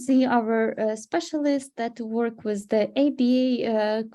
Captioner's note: speaking Ukrainian